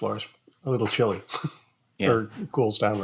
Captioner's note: chuckles